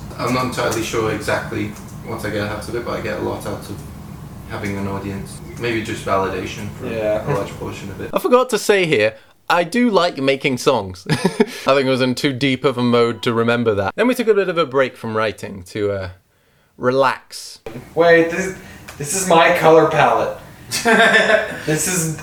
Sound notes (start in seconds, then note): 11.0 laughs; 20.7 laughs